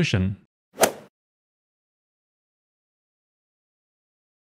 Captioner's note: golf ball hit sound